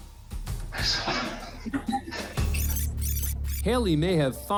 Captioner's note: chuckling